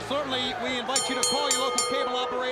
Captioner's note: bell ringing